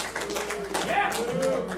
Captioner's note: cheering